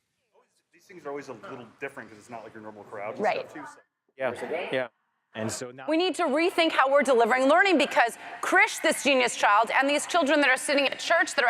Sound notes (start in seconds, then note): 0.7 male Voice